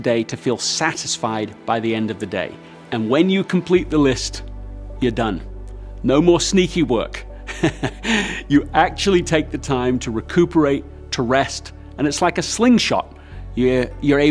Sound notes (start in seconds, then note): 7.4 laughs